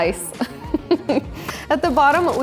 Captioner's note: laughs